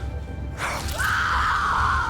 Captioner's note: screaming